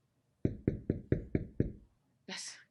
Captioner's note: knocking on the door